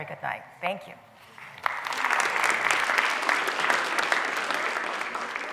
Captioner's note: applause